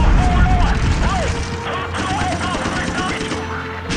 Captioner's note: dramatic music; gunshot sounds; explosions and screams